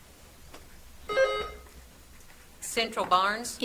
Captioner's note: buzzer trills